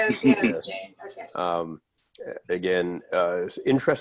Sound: laughter

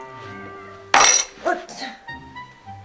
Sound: SFX: Clatter

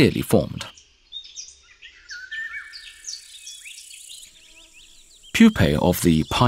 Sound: sounds of nature

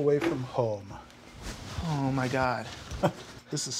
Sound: laughing

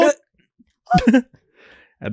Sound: giggles

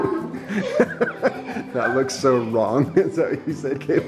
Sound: man Laughs

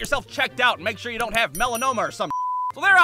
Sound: beep

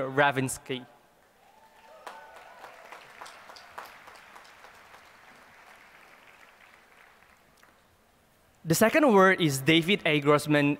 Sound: applause

